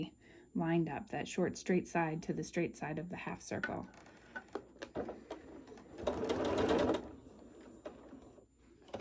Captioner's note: sewing